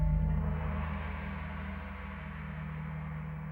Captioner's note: gong crashing